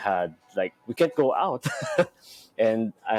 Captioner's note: laughs